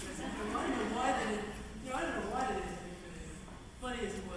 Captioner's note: laughter